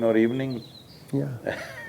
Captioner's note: laughs